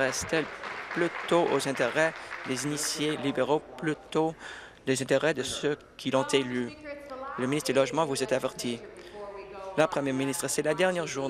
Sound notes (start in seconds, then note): 2.5 applause